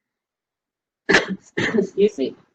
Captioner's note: cough